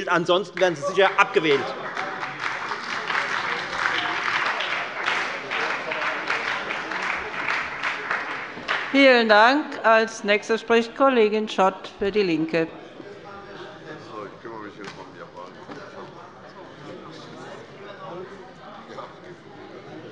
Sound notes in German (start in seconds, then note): 0.5 Beifall bei der FDP und der SPD